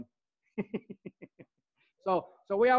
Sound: laughs

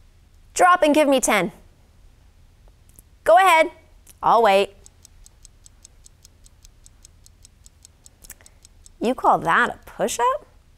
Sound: watch ticking

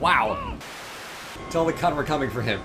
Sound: Static

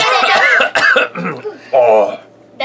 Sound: coughs

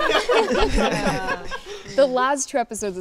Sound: cast laughs

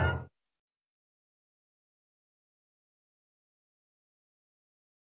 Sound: silence

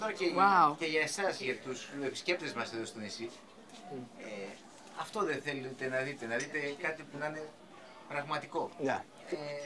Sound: speaking Greek

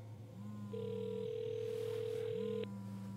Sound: phone vibrating/ringing

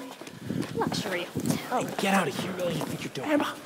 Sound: chatter as Jasper Clarke ushers everyone out

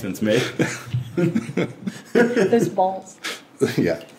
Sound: all laughing

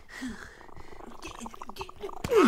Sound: purring

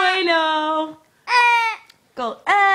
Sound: speaks in foreign language

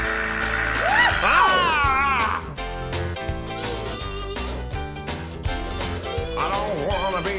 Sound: lively music; squawking; shouting

